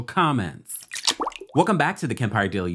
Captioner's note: water drips